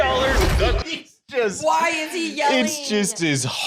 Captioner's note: laughing; laughs